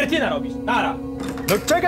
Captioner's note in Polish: otwieranie drzwi